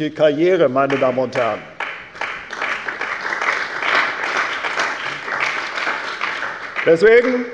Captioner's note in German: Beifall bei der CDU und dem BÜNDNIS 90/DIE GRÜNEN